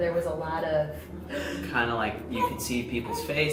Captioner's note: she gasps